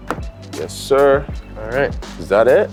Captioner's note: pattern thudding